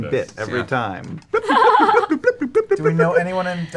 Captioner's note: laughter